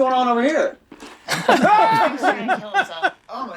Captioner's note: Charlie screams loudly